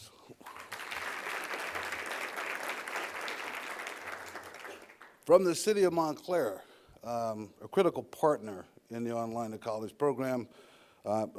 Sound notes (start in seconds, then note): 4.8 applause